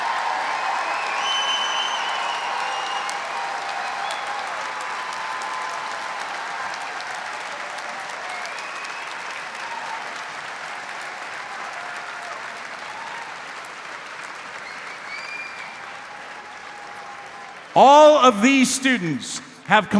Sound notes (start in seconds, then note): 0.7 audience member whistles; 14.6 audience member whistles